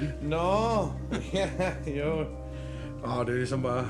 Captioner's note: laughter